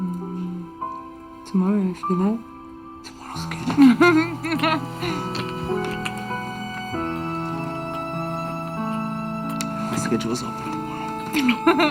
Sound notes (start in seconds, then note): 3.6 laughs; 4.4 sweet instrumental music